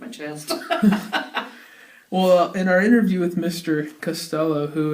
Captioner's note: both laugh